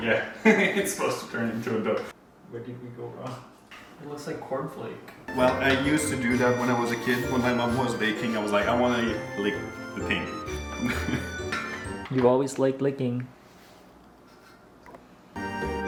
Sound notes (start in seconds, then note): 0.5 laughs; 10.7 chuckles